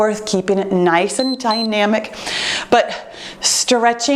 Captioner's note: timer beeps